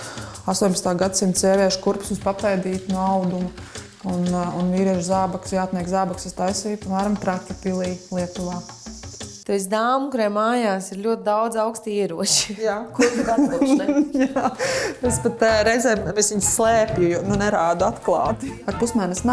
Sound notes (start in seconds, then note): 13.0 laughs